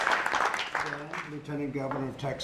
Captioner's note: applause